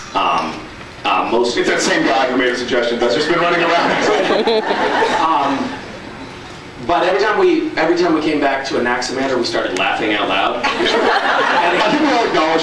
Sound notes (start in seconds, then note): 3.8 scattered laughs; 10.6 laughs